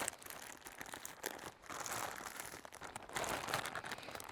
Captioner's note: plastic crackling